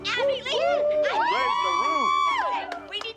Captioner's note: cheering